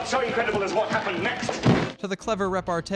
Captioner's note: thud